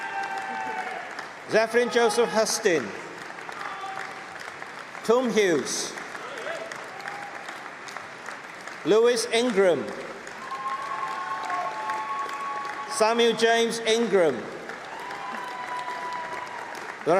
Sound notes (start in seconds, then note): 0.0 cheering; 4.1 applause; 11.1 applause; 15.8 applause